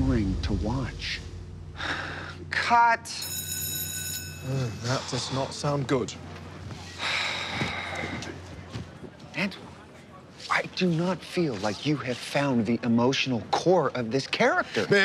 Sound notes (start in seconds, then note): 1.7 deep exhale; 3.1 bell ringing; 7.1 deep exhale